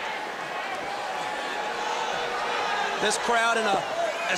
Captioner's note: crowd chatter